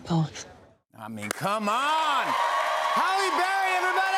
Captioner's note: cheers and applause